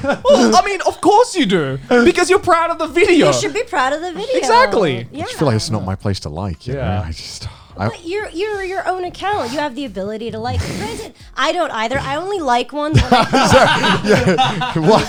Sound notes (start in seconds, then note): 6.8 sighs; 12.8 all laughing